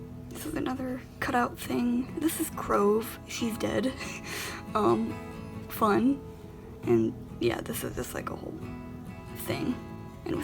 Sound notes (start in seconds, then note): 2.0 laughs